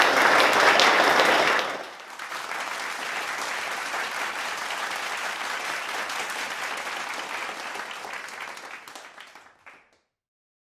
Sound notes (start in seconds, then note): 2.3 crowd clapping